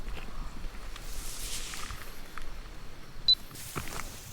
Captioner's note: wind rustling; insects chittering; camera beeps